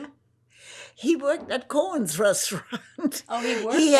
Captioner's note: laughing